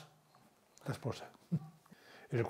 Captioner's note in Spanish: Ríe